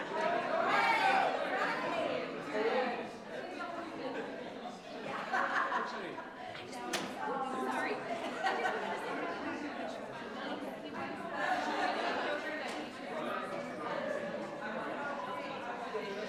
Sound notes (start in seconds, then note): 4.5 people chattering indistinctly